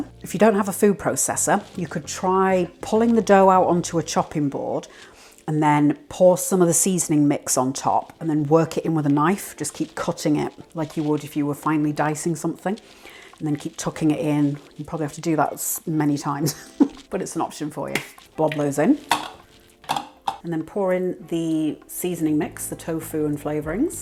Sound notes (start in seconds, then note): 19.8 clacks